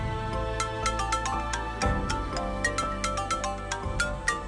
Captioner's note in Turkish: Telefon çalıyor